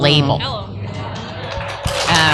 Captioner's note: applause